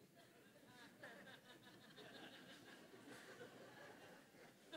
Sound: congregation laughing

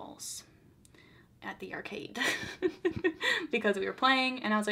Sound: laughs

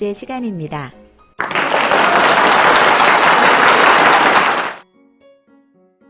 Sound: applause

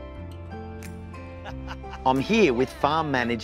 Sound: laughs

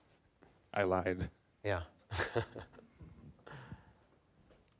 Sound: chuckling

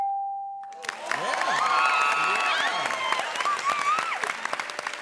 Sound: cheers and applause

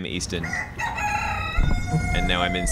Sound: rooster crowing

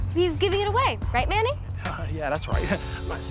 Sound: laughs

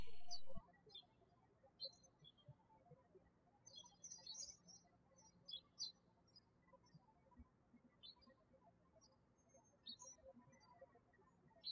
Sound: birds chirping

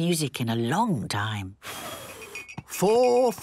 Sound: blows

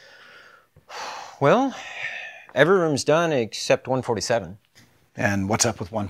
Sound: sighs

